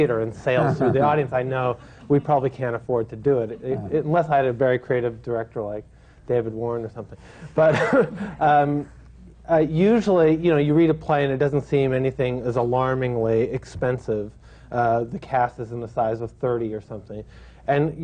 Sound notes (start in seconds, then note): 0.5 laughter; 8.4 laughs